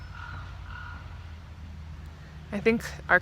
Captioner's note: bird